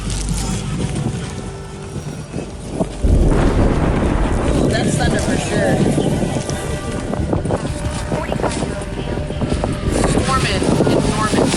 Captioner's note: thunder clapping